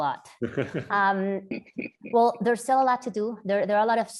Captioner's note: laugh